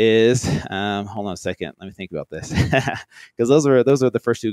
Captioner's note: laughs